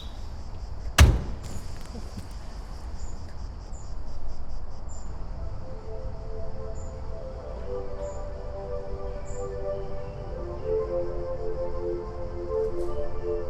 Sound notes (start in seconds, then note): 0.8 car door thudding; 5.9 gentle music; 8.0 birds chirping; 10.6 gentle music